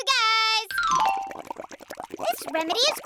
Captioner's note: bubbling